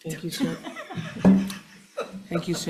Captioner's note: panel laughing